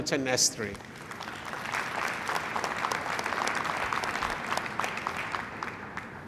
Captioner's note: applause